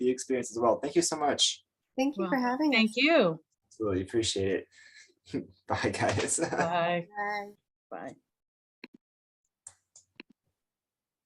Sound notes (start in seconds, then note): 6.0 chuckles